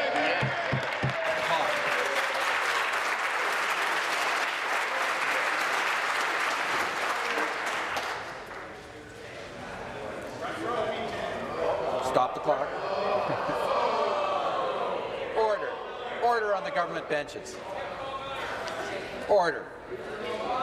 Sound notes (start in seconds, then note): 4.2 applause